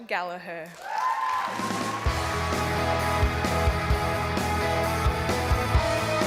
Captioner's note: cheering and applause